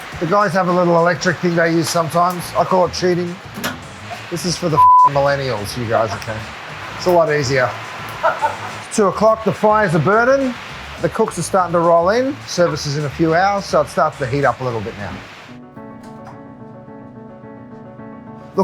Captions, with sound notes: The guys have a little electric thing they use sometimes. I call it cheating. This is for the (beep) millennials. You guys, okay? It's a lot easier. It's two o'clock, the fire's a burnin'. The cooks are starting to roll in. Service is in a few hours so it's starting to heat up a little bit, now. (tranquil music)